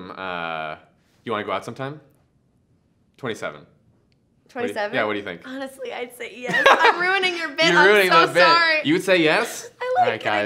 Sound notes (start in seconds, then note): 6.5 laughs